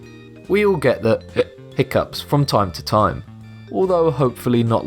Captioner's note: hiccups